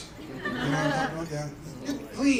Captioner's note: laughter